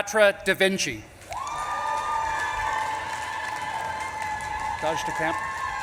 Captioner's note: audience claps and cheers